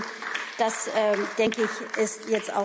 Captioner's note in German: Beifall